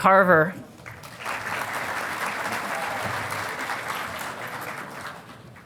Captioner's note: audience applauding